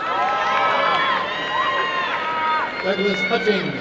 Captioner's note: applause and cheering